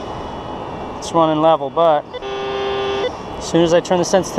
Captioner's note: detector buzzes